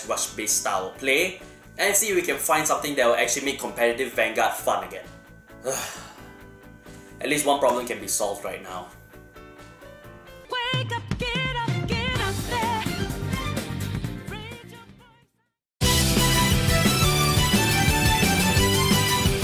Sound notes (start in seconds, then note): 5.6 heavy sigh